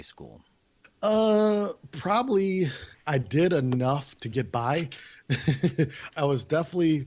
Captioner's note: laughs